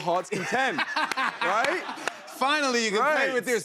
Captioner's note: laughs